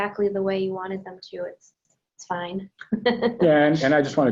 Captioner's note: laughs